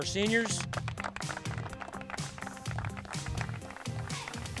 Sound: appaluse

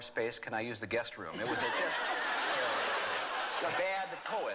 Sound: laughter

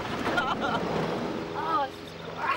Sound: laughs

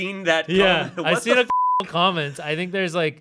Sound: beep

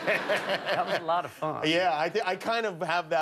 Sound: laughter

